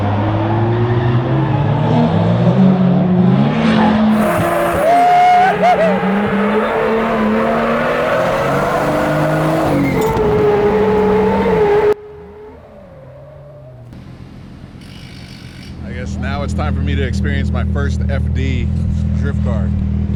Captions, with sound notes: (engine revs) (engine revs) (tires squealing) Woo hoo hoo! (tires squealing) (engine revs) (tires squealing) (tires squealing) (drill) - I guess now it's time for me to experience my first FD drift car.